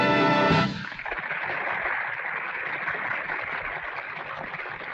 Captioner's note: audience applauding